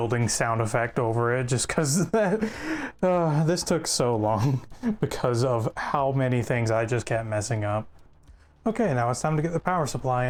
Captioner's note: sigh